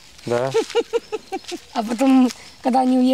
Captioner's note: laughing